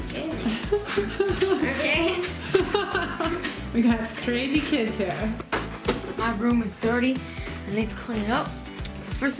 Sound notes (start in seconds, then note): 0.3 giggling; 4.4 laughing